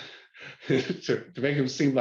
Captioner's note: laughs